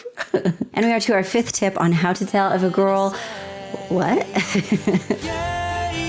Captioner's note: laughter; laughter